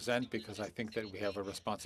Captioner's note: speaking French